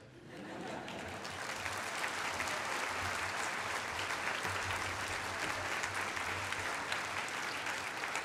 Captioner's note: applause